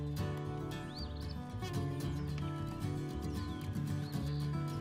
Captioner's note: country music; birds chirping